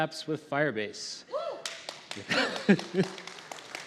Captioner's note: applause